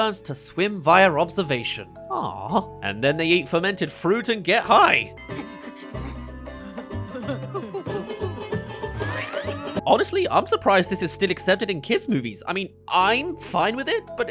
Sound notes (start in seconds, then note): 5.3 laughing